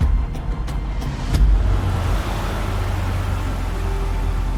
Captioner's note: upbeat music; car engine revs; soft music